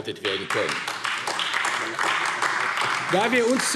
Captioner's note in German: Beifall AfD